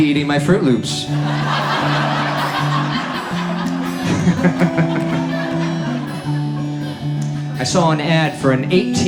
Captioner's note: audience laughs